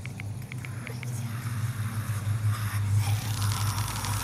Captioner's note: demonic Noises